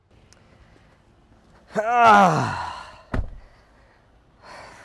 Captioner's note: le groans